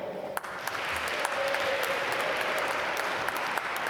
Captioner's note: applause